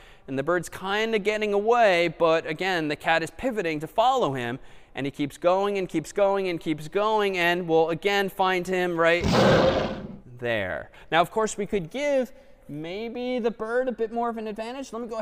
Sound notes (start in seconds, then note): 9.2 lion roars